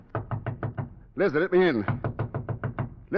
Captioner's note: knocking